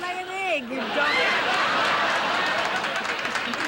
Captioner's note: audience laughing